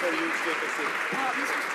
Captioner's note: some Applause